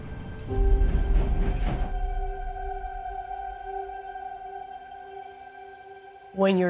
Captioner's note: train screeching